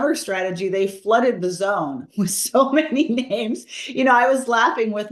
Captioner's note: laugh